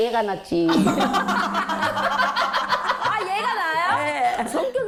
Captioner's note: laughing a little late